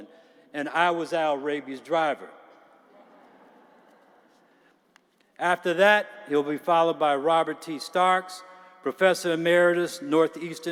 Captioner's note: laughter